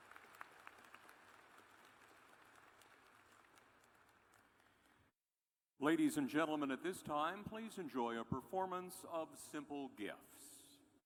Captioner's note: applause